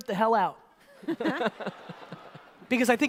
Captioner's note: audience laughter